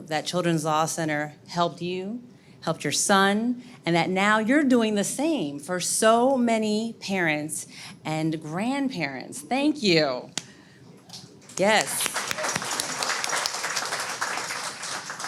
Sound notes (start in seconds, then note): 11.5 audience claps